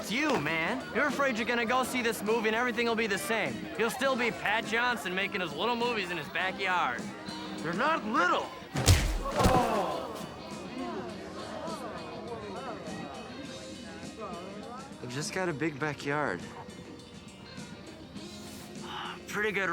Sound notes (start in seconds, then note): 10.2 chatter